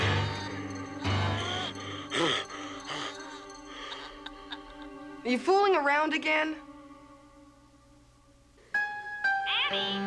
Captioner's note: screaming